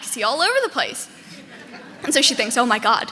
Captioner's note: audience laughing